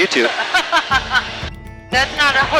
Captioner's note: laughs